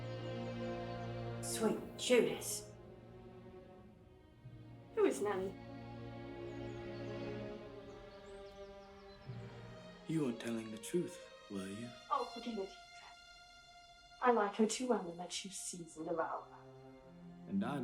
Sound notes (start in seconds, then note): 7.0 birds singing